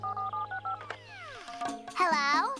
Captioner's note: dialing